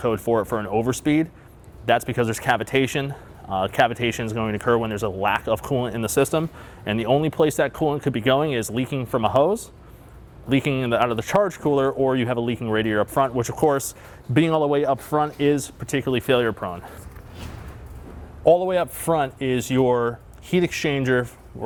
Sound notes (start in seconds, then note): 17.0 air whooshes